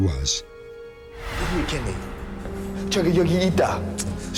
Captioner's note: speaking korean; whoosh